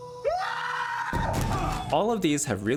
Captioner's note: screams